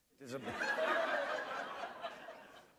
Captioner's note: laughter